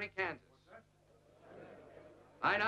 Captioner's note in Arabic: ثرثرة الحشد